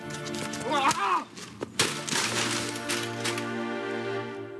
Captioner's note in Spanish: Ruido al tirar cesto